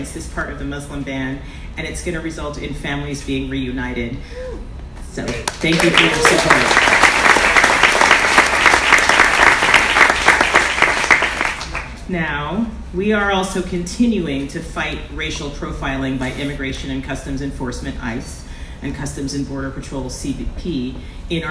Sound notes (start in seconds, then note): 6.9 audience applauds